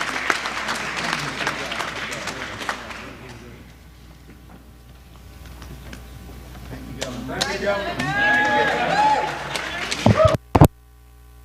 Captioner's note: applause